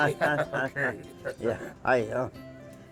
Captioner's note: laughter